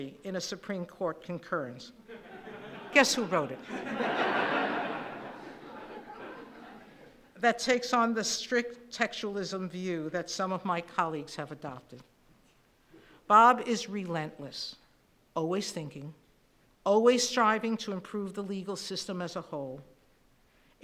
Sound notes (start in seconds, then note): 3.5 laughing